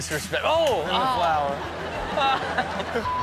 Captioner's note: beep